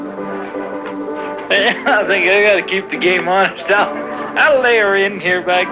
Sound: laughs

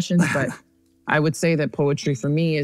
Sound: laughs

